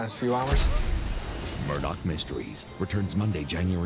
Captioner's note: cannon fire